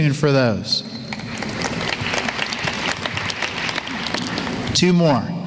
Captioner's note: applause